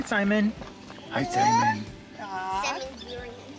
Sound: baby talk

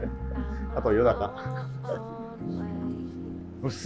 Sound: laughing

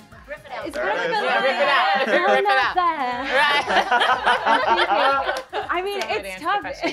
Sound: laughs

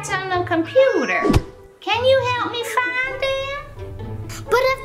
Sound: cat meows

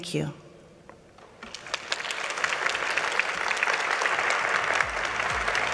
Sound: audience applauding

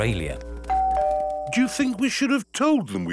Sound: doorbell rings

